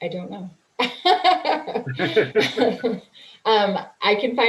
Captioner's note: laughing